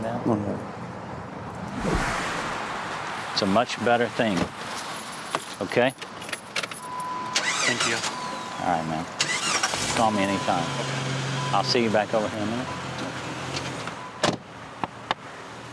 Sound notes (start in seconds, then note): 7.3 engine starts